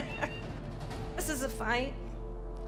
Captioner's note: laughs